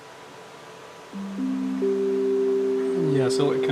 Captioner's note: Wi-Fi connection sound